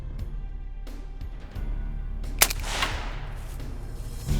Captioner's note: gun bangs